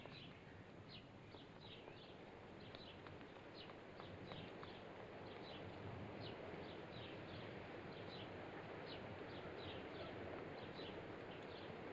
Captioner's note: birds chirping